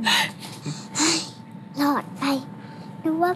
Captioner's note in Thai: ถอนหายใจ